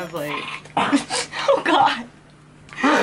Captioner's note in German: würg